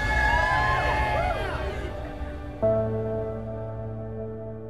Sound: cheering

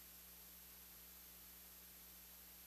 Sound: none

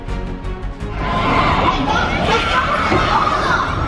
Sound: screaming

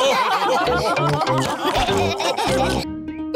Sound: laughter

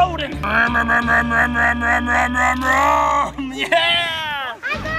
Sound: making car sounds

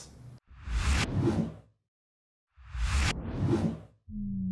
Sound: slogan whooshes

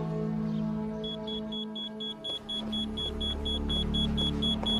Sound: electronic beeping

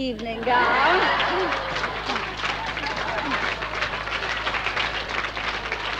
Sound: audience laughs and cheers

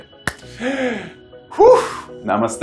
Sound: exhaling

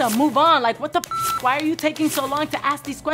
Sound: beep

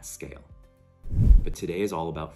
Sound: swoosh

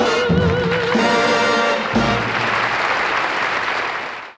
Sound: audience applauds

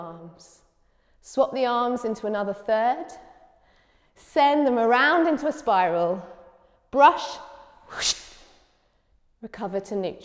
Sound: woosh

